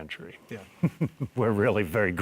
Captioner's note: laughing